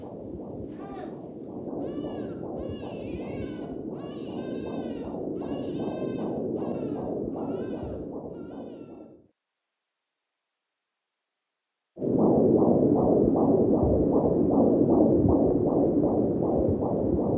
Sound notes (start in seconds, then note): 0.8 woman moans; 1.8 baby cries; 2.3 heart beating; 11.9 heart beating